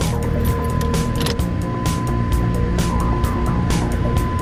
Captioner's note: car alert dinging